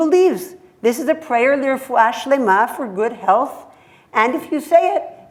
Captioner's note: hebrew